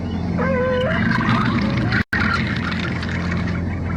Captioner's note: dogs Baying; chittering Sound